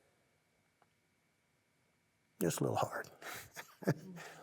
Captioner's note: laughs